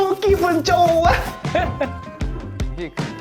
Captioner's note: heh-heh